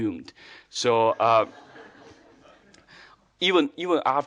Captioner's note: audience laughing